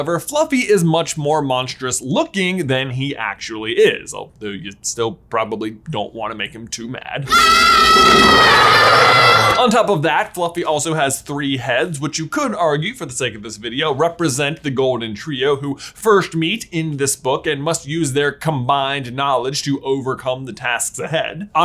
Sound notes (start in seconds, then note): 7.2 kids scream; 7.3 Fluffy growls